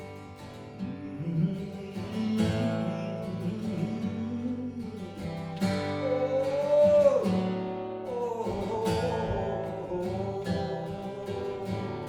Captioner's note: humming